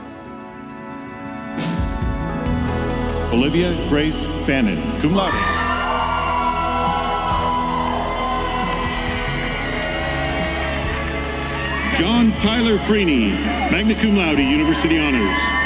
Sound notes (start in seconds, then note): 1.1 gentle music; 5.8 audience cheers